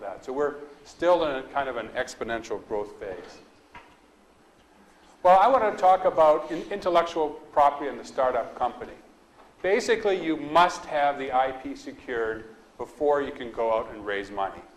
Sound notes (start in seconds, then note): none